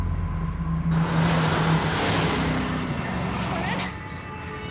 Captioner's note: car engines whir